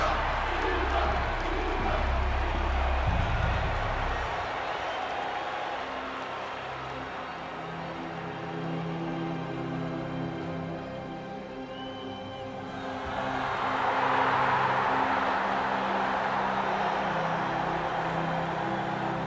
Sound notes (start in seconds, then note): 2.4 cheering